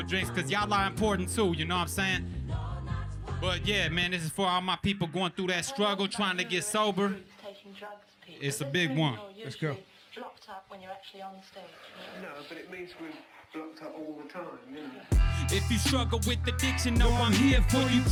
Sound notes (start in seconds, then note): 7.4 voiceover